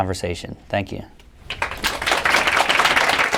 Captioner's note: applause